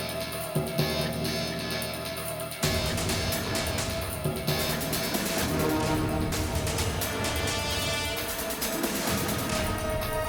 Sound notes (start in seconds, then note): 0.3 drum; 4.8 gunshot